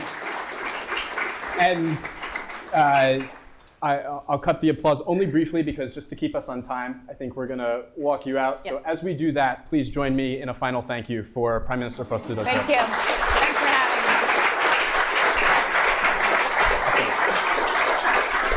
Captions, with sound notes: - I'll cut the applause only briefly because just to keep us on time, I think we're gonna walk you out. So as we do that, please join me in a final thank you for Prime Minister Frostadottir. (audience clapping) - Thanks for having me.